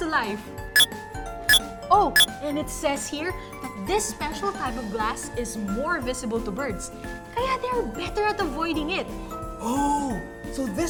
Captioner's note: MindBlower beeps